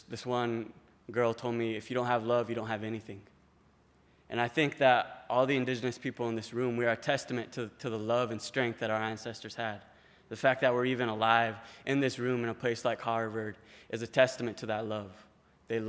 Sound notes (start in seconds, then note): none